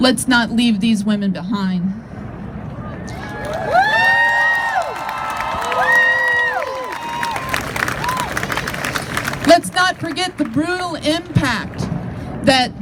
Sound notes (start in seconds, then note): 3.1 crowd cheers